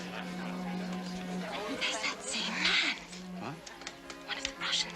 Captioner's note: whispers